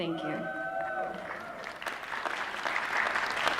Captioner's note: applause